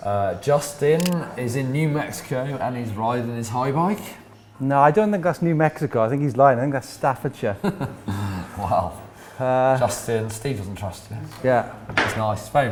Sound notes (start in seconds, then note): 7.6 laughs